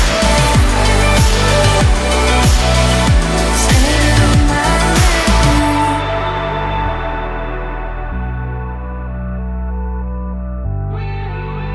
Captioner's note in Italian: Applauso